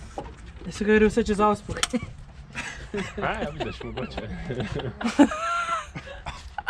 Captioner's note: laughs